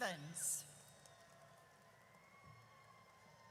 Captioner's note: audience cheers